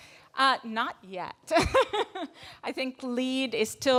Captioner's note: laughs